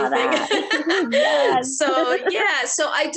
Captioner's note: laughs